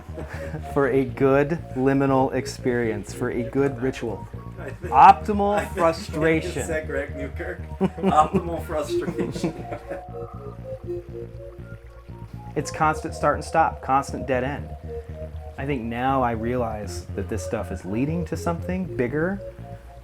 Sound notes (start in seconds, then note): 4.6 laughing